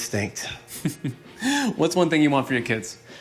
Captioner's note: laughing